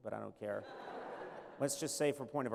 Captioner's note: laughter